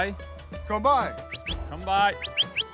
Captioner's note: whistles